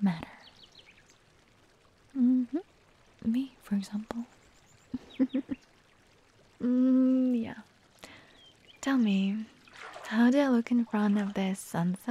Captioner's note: chuckles